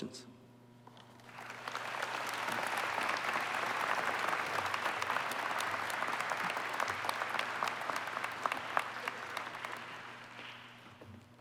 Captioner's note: applause